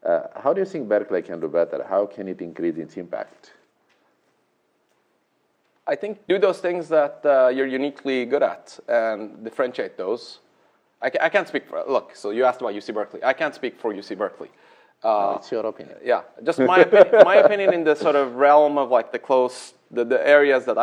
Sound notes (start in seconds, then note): 16.6 laughs